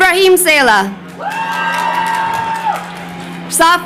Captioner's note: crowd cheering